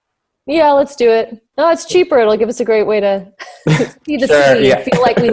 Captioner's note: laughs